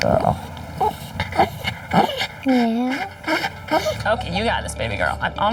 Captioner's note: whines